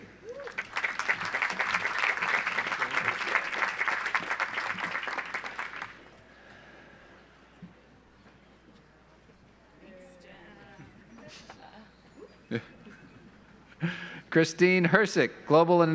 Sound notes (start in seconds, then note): 0.2 audience applauds; 12.5 laughs